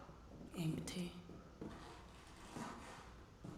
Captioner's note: floor creaks under footsteps